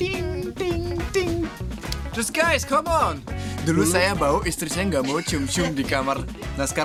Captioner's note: Speaking in Bahasa